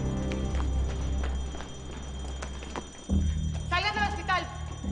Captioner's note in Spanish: Sonido de alarma